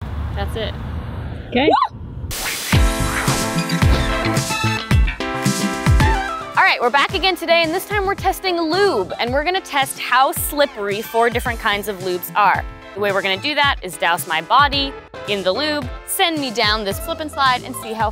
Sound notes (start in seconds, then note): 2.5 creaking; 2.5 swishing; 3.7 upbeat music